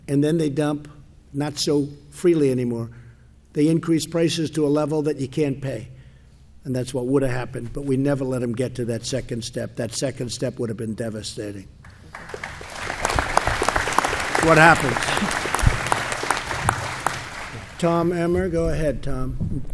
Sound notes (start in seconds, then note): 11.8 applause